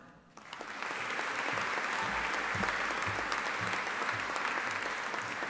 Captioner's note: audience applauding